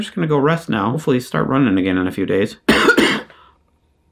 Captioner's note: coughing